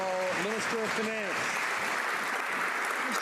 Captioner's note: some Applause